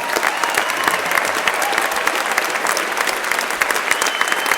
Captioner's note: crowd applauding